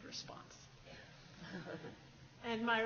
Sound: laughs

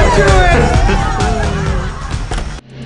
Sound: chuckles

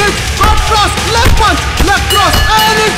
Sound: bell rings

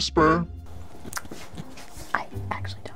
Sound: footsteps shuffling

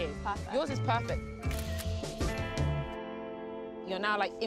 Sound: camera shutter clicks

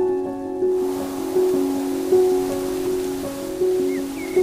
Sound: tranquil music; trees rustling

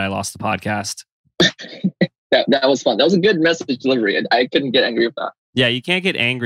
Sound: laughs

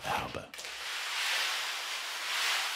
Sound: grinding noise

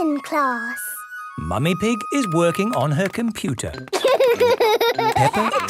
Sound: laughter

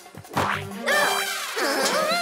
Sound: grunts

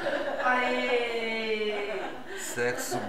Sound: laughter

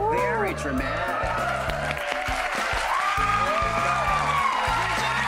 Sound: audience cheering

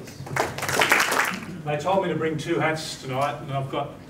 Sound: applause

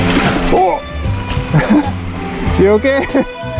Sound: laughs; grunts

